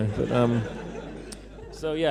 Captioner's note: laughter